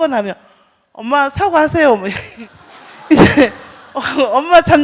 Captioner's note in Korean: 질문자와 청중 웃음